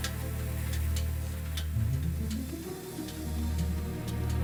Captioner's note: engine clicking; suspenseful music